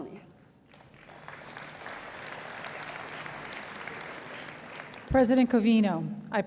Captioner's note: applause